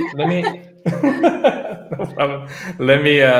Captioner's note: laughing